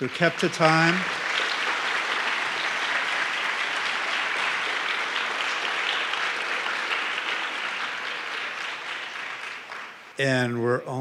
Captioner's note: applause